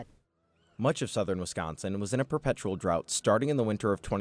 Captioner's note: voice-over